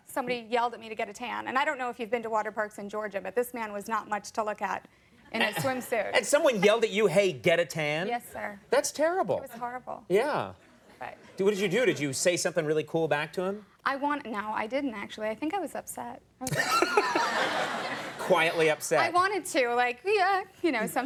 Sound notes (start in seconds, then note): 16.5 Conan laughing; 16.5 audience laughing